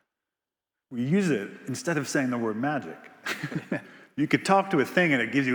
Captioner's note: laughs